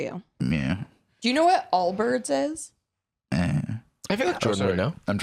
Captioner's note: noncommittal grunt